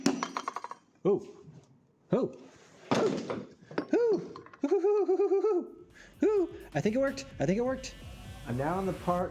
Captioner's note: daffy duck noises